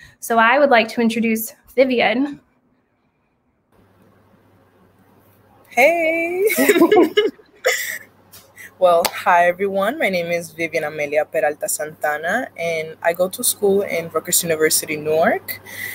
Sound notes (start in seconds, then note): 6.4 both laugh